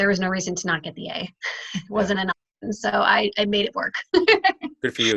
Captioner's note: laughing